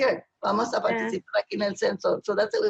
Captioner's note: speaking spanish